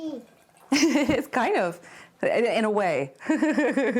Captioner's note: laughing